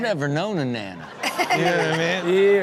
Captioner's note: everyone laughs